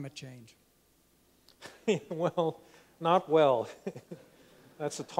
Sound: laughs

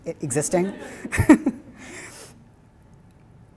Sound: laughs

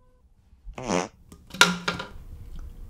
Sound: fart

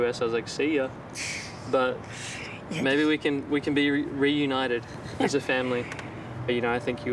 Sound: chuckles

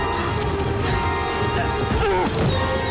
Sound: grunting

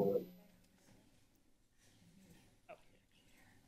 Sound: silence

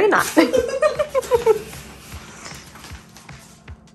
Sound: giggling

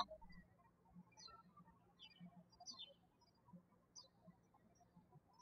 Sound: birds chirping

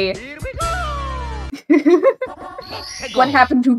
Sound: giddy laughter reading chat

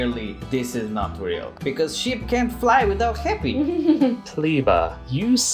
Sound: laughter

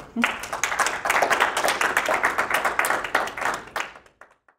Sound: applause

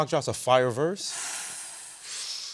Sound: gasping

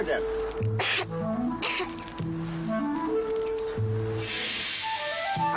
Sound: Bess coughing

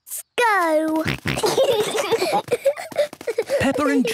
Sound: snorting, giggling

